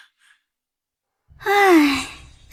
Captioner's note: sigh!